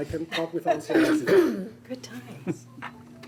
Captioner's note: coughing drowns out speaker